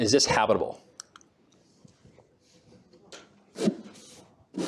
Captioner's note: click